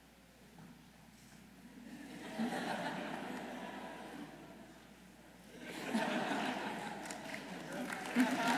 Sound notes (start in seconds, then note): 3.1 audience laughing